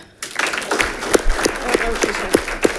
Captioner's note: audience clapping